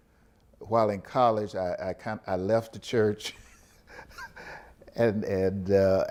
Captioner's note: laughs